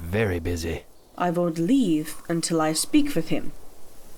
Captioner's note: accented